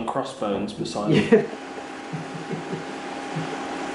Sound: laughs

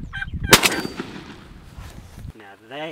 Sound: gunshot

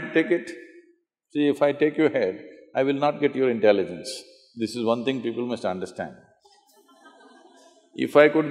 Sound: laughter

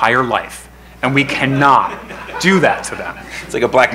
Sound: crowd laughing

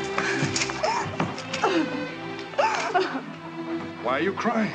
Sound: Salome sobbing

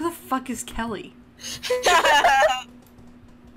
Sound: everyone laughs

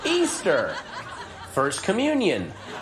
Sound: audience laughter

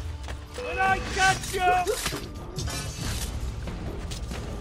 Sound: hidden blade stabbing sound

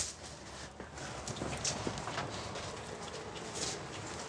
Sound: footsteps

